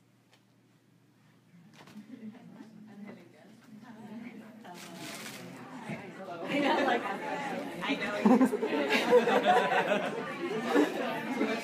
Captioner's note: audience chats